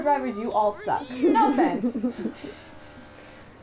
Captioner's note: laughter